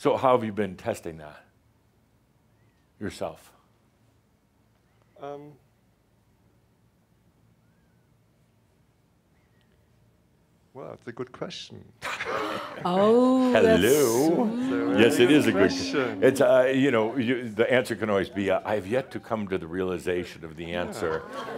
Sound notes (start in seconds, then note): 12.0 they chuckle